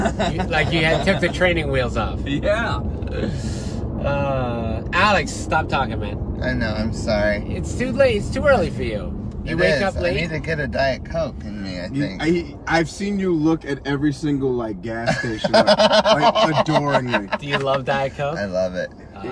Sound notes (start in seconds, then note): 15.0 laughs